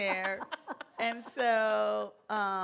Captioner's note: laughter